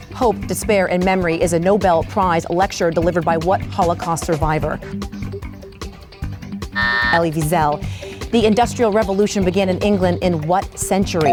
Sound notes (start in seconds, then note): 6.7 buzzer buzzes; 11.1 bell dings